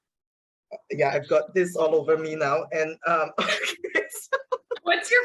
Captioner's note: laughs